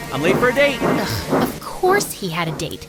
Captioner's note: scoffs